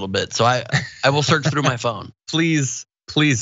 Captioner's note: laugh